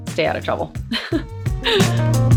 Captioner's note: laughs